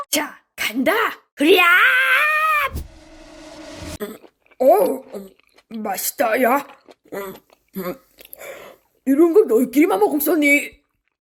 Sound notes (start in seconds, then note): 6.8 munching